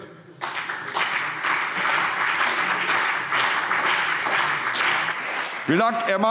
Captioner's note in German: Beifall BÜNDNIS 90/DIE GRÜNEN und CDU